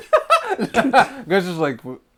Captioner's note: laughter